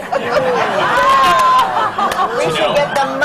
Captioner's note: laughter